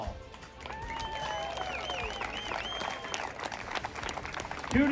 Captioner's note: crowd cheering